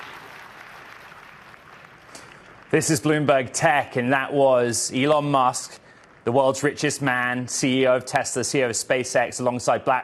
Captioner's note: applause